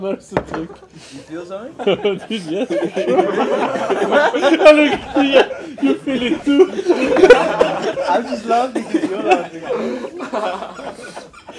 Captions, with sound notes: it’s working quite well! You feel something? Yeah dude for sure! (laughs) Look at you! You feel it too! I am just laughing because you’re laughing! (laughs) Everybody’s going off the rails.